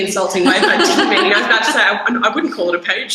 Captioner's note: laughter drowns out speaker